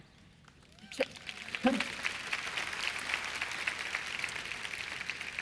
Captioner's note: applause